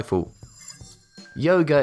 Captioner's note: futuristic ringing